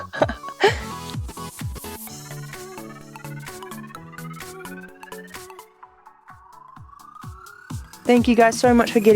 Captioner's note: laughs